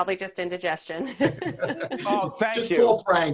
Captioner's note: all laughing